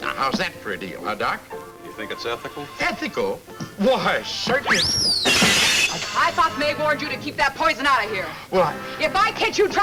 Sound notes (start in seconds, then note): 5.1 glass shatters